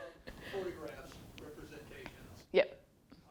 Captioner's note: man speaks off mic